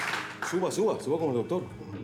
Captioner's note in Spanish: Aplausos